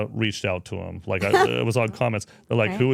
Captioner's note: speaker chuckles